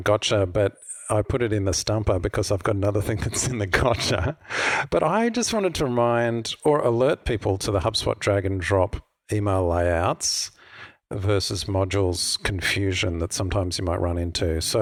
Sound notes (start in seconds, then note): 3.1 chuckles